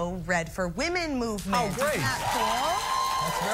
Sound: cheering

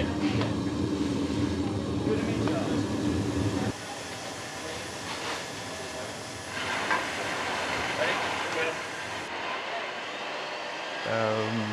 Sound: construction sounds

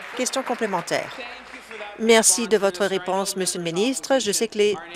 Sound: applause

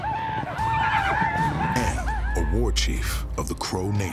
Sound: men yelling

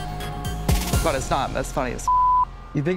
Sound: beep

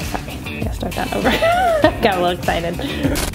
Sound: laughing

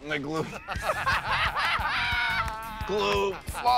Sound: laughter

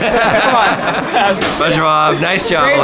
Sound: laughs

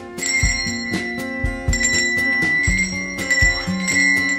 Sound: bell ringing

